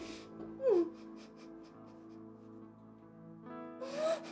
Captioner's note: Kathy crying